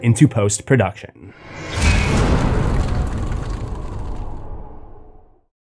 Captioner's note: impact